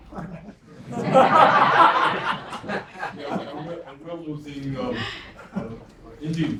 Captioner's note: laugh